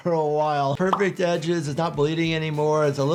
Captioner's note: image pops